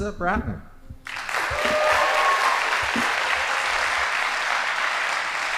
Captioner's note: audience applauding